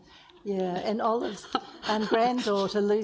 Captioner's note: laughs